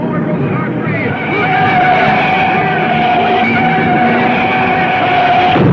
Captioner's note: tires screeching